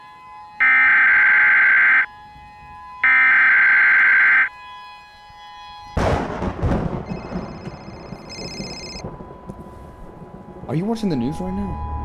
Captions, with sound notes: *Emergency broadcast system sound* *Phone ring* Are you watching the news right now?